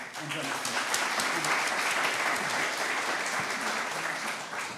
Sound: applause

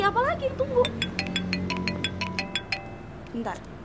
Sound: phone ringing

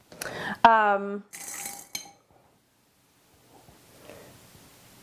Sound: brushes clattering

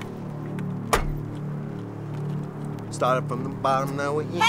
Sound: door shuts

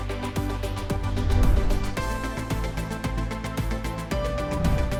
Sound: air whooshing; air whooshing

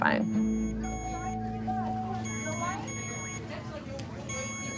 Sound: monitor beeping

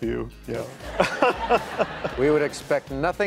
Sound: laughter

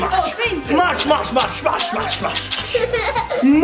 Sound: masher squishing; child laughing

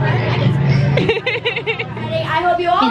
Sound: laughing

